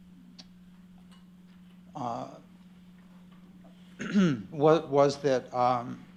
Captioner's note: clearing throat